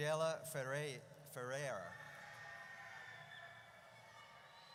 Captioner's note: audience cheers